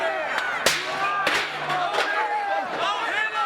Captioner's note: chair clunking; crowd yelling